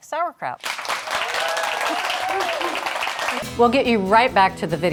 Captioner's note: audience cheering